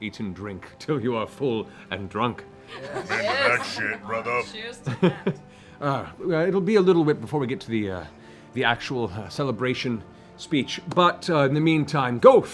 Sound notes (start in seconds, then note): 2.4 laughter